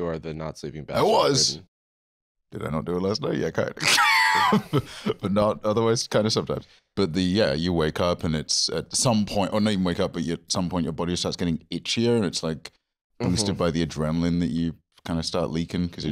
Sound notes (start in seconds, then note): 3.8 laughs